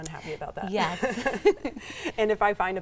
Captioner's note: both laughing